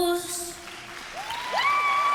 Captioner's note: cheering